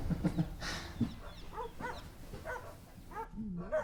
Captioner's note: Sean chuckles